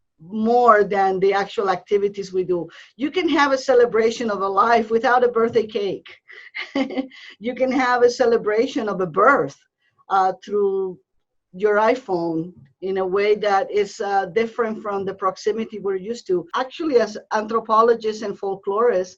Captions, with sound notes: than the actual activities we do. You can have a celebration of a life without a birthday cake. (giggling) You can have a celebration of a birth, through your iPhone in a way that is different from the proximity we're used to. Actually, as anthropologist and folklorist,